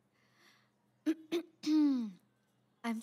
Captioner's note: Clears throat